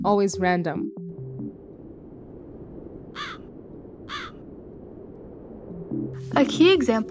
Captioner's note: wind blowing, crows chirping